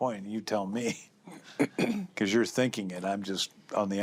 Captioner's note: clears throat